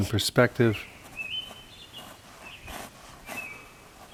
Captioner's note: birds chirping